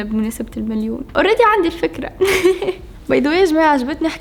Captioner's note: giggles